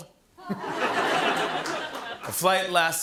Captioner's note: laughter